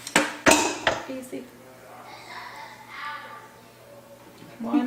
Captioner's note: sounds of children playing off camera